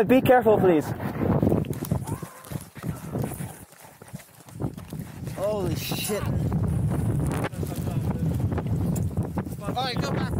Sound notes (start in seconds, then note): 5.3 groaning